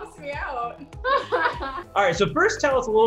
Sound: laughs

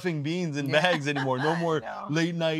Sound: laughing

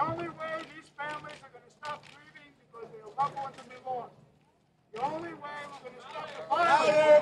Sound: applause

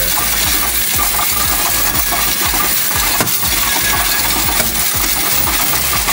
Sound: upbeat music; coins rattling

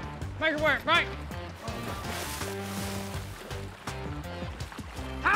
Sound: water splashes

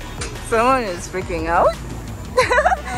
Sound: laughing

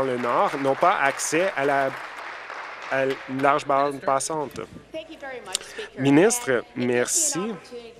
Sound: applause

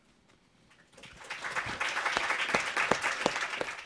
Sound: applause

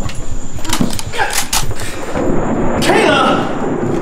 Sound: shotgun cocking

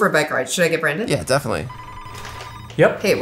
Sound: phone ringing

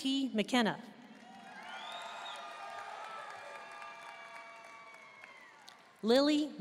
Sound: audience cheering and applauding

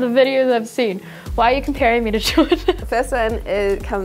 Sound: laughs

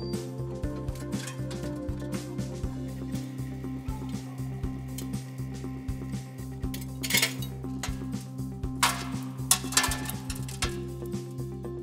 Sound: concrete breaking

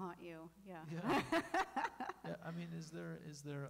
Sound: laughing

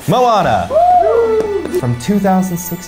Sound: magical music; all cheering

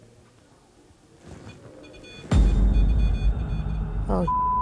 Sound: beeping

